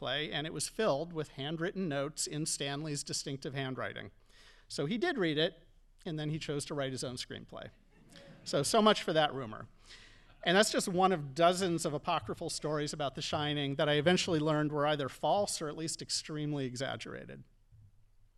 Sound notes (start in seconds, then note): 8.0 audience laughing